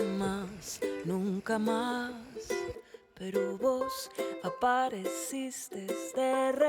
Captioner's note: wind blowing